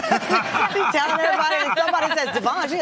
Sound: all laugh

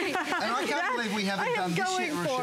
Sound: laughter

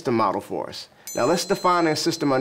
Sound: bell chimes

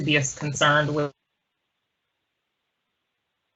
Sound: audio cuts out

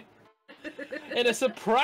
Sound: laughing

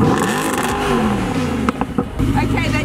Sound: wrrrrrAWRRRRRRRRRRRRR!

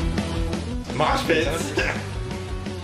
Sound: laughter

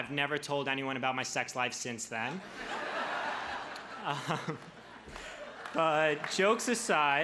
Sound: crowd laughs

